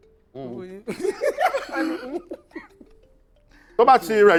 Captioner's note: laughs